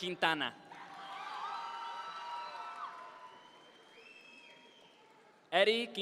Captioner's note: audience members cheer